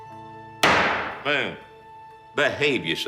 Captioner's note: gavel bangs on wood